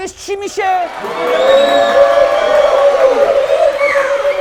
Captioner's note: cheers